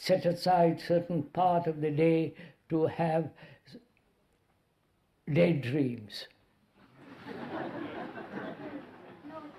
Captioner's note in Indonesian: Tertawa